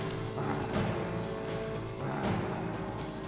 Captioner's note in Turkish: Noyan nefes sesi